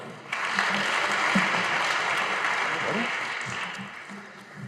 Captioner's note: audience applauding